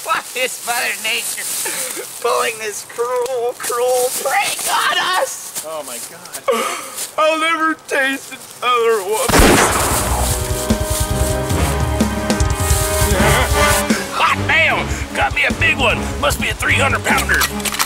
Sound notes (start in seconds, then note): 9.3 gun shot firing; 9.7 suspense music